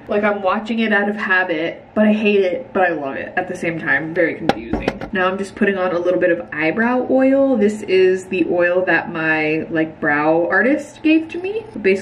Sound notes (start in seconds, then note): none